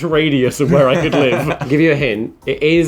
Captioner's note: laughing